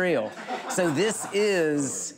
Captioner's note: laughing